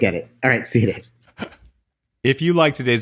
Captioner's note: laughing